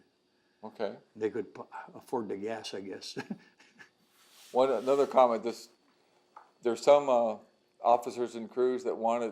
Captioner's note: laughs